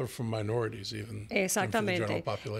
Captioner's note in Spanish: Hablando ingl\s